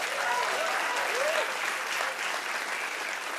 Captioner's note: cheers and applause